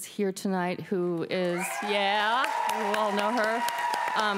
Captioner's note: applause